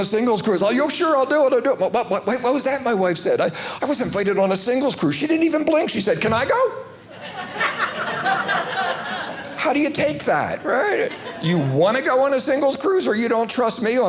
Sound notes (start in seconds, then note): 7.1 audience laughing